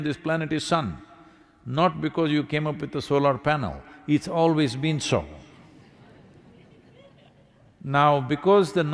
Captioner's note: laughter